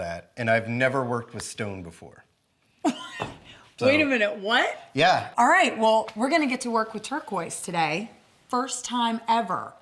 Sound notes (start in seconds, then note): 2.8 laughs